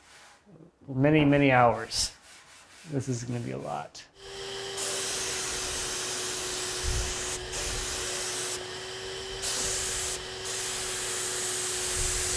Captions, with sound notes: many, many hours. This is gonna be a lot. (spray paint hisses)